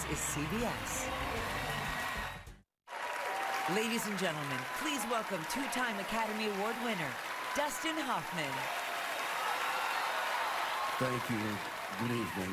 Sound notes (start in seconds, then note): 9.9 cheering, applause